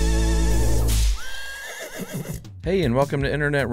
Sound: horse neighs

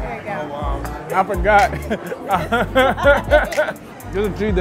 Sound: laughing

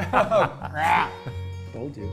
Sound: laughs

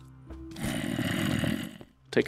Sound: zombie groans

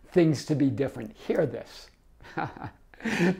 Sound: laughs

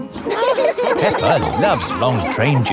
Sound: laughing

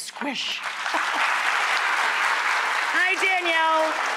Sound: audience applauding

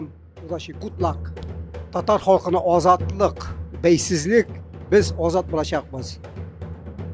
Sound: speaking in Tatar

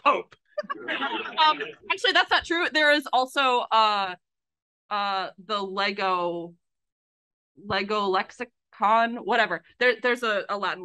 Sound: laughs

